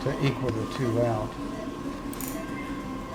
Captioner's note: beeping